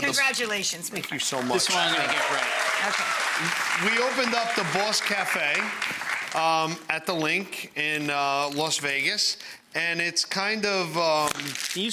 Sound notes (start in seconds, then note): 1.3 audience applauding